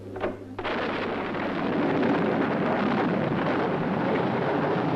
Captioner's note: thunder and waves roaring